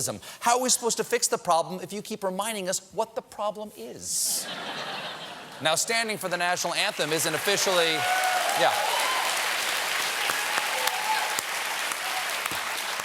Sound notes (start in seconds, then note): 0.2 laughter; 6.6 applause